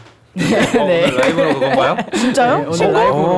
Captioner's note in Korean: 진행에 박수 짝